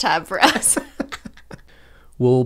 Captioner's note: laughter